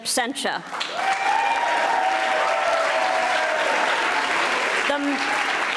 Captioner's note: audience applauding